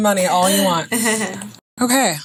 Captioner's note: chuckling